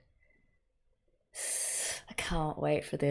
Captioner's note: sharp intake of breath